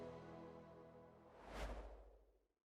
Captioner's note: air whooshing